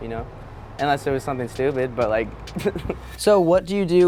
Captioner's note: laughs